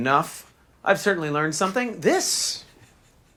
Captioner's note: lawyer laughs